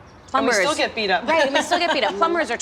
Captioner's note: laughs